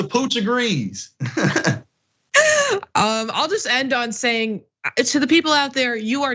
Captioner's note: laugh